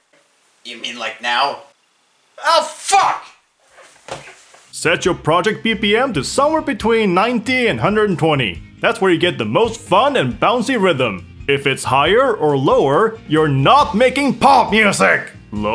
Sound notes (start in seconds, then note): 4.0 foot stomp